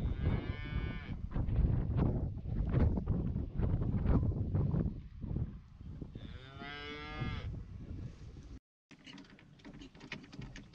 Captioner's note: cows mooing